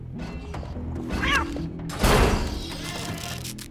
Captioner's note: cat meows